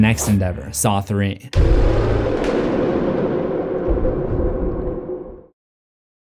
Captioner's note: thunder